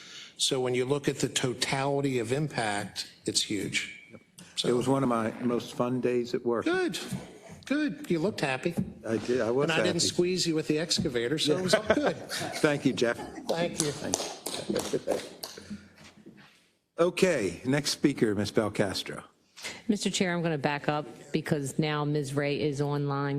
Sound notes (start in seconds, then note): 11.5 laugh; 13.5 applause